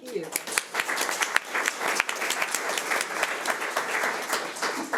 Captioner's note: audience applauds